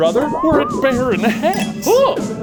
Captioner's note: slide whistle tooting; electricity zapping